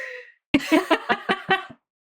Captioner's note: laughing